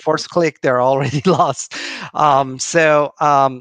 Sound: laughing

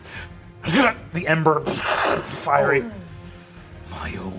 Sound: imitates flames crackling

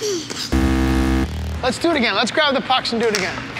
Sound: buzzer

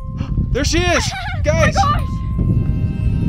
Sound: laughs mockingly

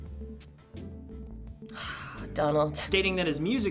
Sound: heavy sigh

